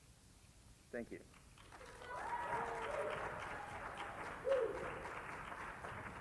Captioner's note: cheers and applause